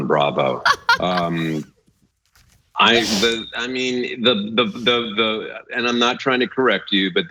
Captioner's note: laugh